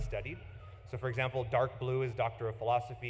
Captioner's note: none